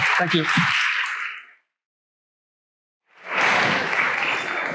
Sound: applause

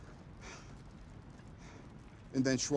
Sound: breathes heavily

